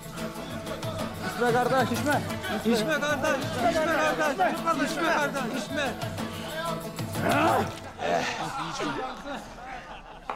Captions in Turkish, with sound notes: (Hep bir ağızdan) İçme kardeş, içme! Eh!